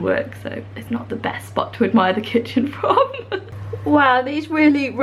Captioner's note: laughing